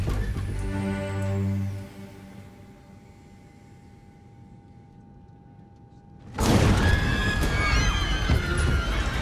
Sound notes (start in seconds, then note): 6.4 crashing; 6.8 passengers screaming; 9.0 suspenseful music